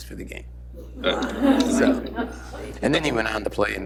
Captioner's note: laughter